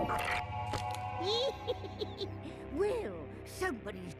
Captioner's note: cackling